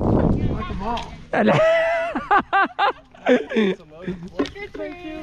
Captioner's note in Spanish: Risas